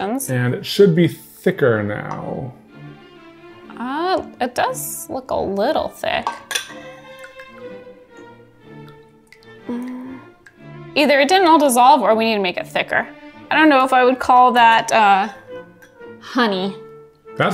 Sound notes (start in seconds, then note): 6.2 fork clinking; 8.2 juice trickling